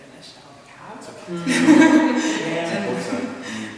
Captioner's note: laughter